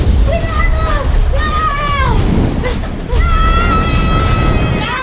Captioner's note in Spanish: gritos